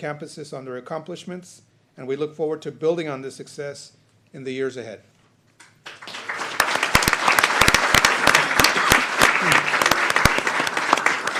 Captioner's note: applause